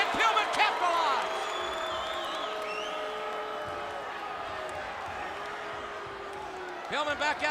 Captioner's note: crowd cheering